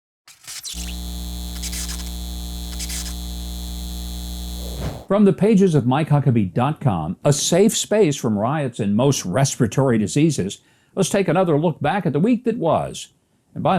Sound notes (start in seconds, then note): 0.2 electric sound